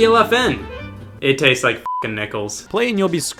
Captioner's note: beep